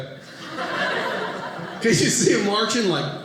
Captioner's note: audience laughing